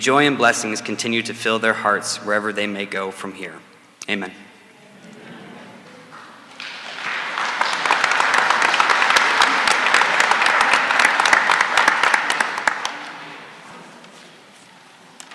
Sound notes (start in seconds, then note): 6.0 applause